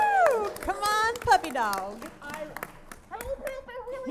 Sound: audience applauds

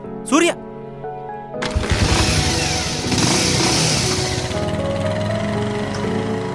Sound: bike starting and vrooming

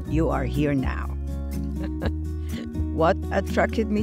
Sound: chuckles

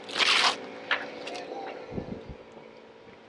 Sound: swooshing

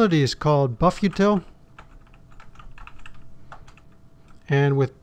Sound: typing

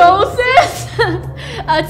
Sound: giggle

